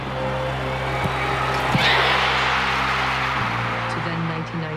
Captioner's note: crowd cheers